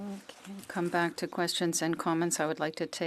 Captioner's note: speaking in French